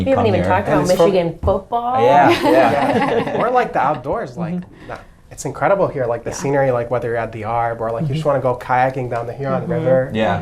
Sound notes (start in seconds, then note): 2.2 everybody chuckling